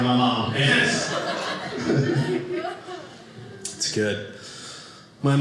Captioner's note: audience laughing